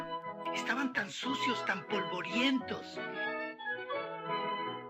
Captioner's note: elena blows